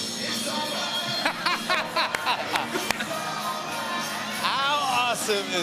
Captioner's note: laughter